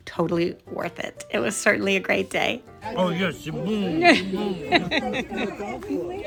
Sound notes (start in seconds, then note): 2.8 laughing; 3.1 speaking french